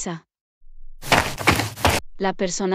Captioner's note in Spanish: FX - Footsteps - On Multiple Dirt - Run